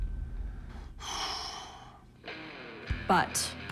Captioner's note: exhales sharply